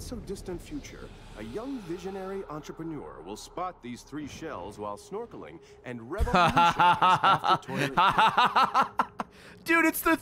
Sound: laughs

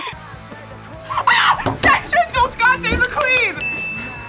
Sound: both laugh; screams

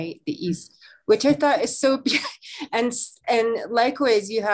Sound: laughs

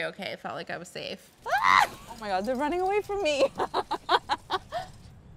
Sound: laughs

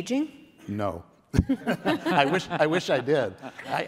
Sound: everyone laughs

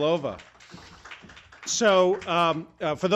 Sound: applause

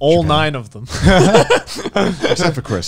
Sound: everyone laughs

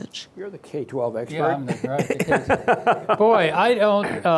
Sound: laughter

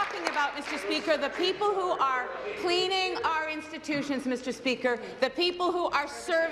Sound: applause

